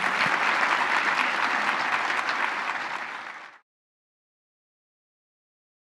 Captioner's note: applause